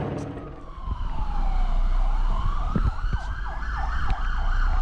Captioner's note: police sirens